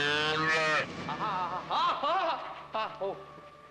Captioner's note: bellows; yells in fright